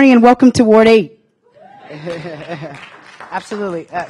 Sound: applause

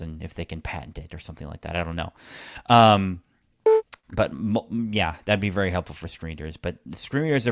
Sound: beep sound

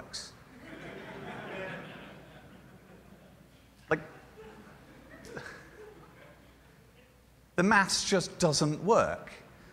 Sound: laughter

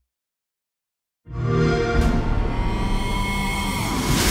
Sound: xbox sound

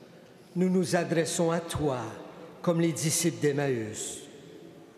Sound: speaking French

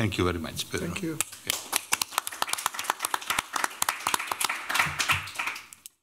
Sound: applause

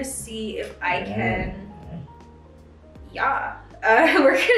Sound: Benji groaning; laughing

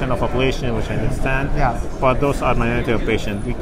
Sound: murmurs

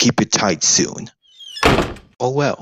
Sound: door closes

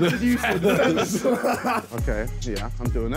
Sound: laughing

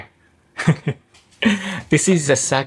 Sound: chuckles

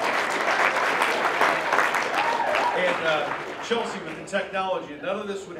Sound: applause

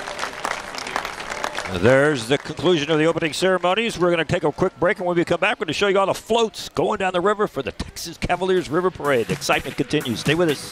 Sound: applause

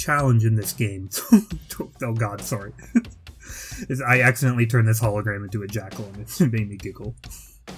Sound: laugh

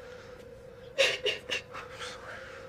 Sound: sobs

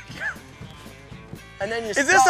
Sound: laughing

